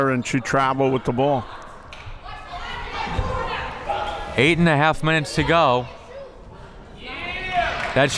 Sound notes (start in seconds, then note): 2.2 crowd members shouting; 6.9 crowd members shouting